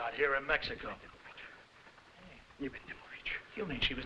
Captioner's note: mumbling in foreign language